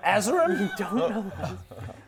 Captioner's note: unashamed giggles